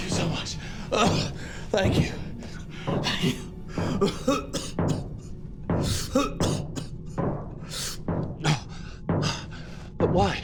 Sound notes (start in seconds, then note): 3.8 coughing